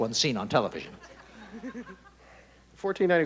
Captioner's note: chuckling